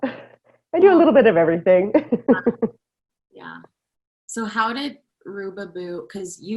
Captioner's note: laughter